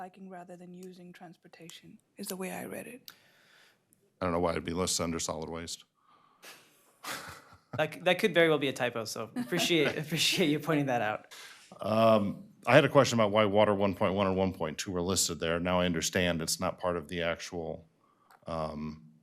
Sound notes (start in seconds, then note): 9.4 laughter